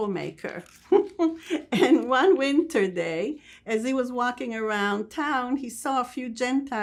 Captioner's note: laughing